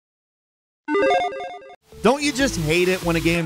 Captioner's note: digital pinging